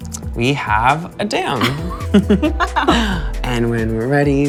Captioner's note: both giggle